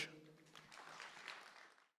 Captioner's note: applause